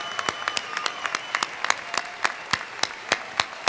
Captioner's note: applause